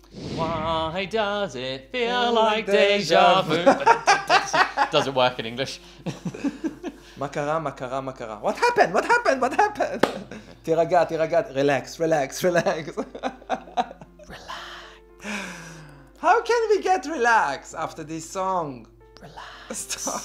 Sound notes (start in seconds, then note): 3.4 laughing; 10.0 clapping; 12.9 laughing